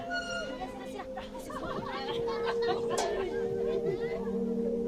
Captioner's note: crowd laughing